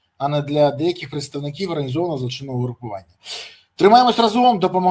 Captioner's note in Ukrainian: сопіння